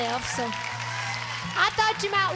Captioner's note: audience cheers and claps